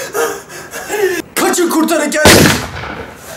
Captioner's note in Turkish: boom